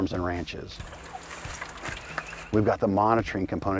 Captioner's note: water pouring